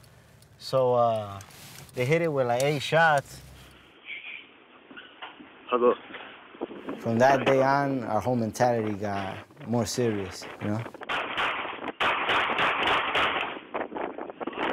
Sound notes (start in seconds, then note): 10.0 gunshots pop